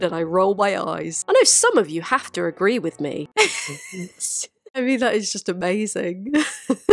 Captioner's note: cracks up